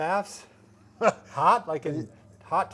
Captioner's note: laughs